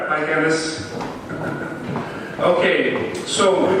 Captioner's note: giggles